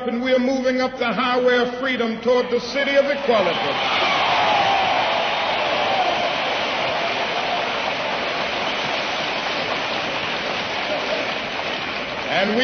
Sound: applause

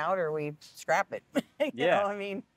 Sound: laughing

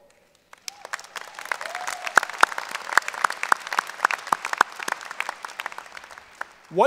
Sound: applause and Cheering

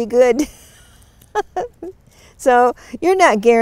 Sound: chuckles

